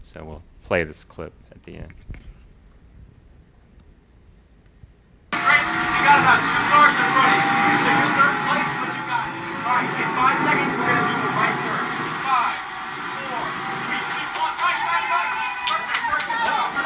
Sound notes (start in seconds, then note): 5.2 shouting; 5.3 car noises